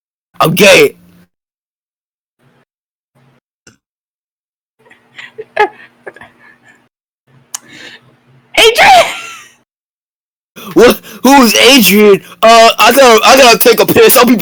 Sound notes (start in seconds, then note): 7.6 lip smack and inhale; 7.6 wheeze